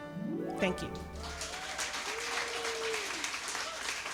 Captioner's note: crowd claps